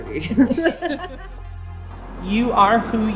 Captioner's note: laughter